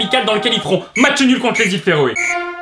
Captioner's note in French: 3 coups de sifflet de fin de match